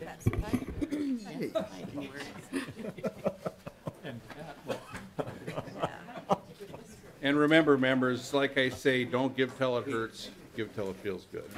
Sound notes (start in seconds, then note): 4.9 laughter